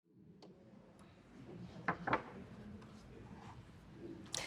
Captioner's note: audience chattering